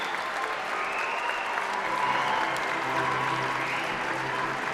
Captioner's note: applause